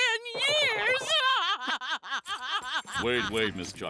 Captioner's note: laughing